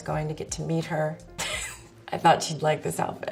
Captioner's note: laughs